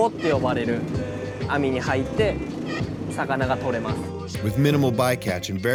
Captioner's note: continues speaking Japanese